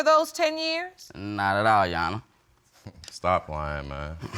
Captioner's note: chuckles softly